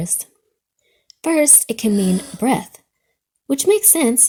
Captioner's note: girl inhales